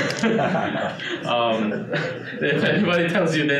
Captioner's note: audience laughing